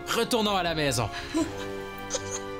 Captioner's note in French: rire